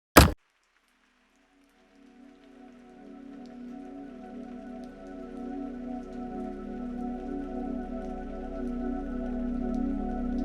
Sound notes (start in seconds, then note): 0.0 knife thuds; 3.8 light music